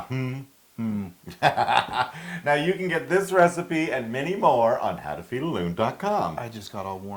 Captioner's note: laugh